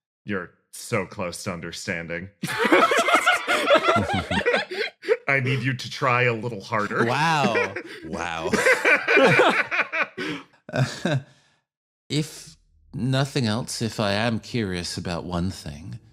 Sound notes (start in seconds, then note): 2.4 laughs; 8.8 laughs